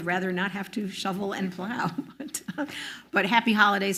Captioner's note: laughs